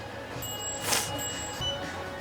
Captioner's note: sniffles